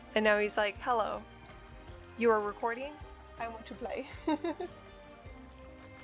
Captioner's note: laughs